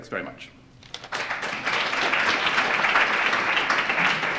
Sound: applause

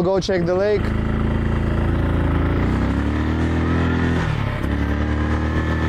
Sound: engine revving continues

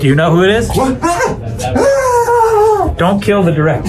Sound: screaming

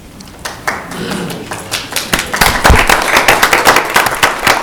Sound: audience applauding

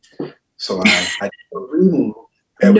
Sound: laughs

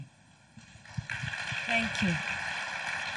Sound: crowd applauds

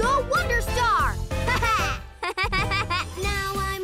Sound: both chuckle

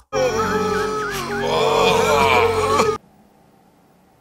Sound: loud moan/groan; various "animal" noises

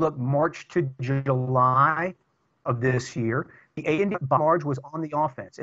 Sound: audio corruption

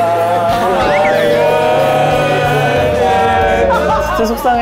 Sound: burst our of tears

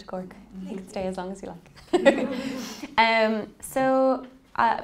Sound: laughing

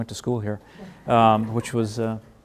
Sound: laughing

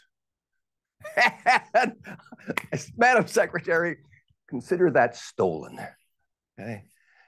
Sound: laughs

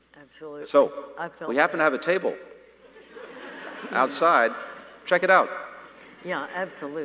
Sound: laughter

